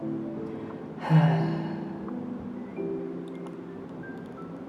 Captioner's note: sigh